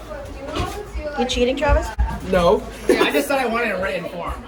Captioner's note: giggle